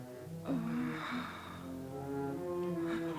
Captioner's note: Cleo moans; tense music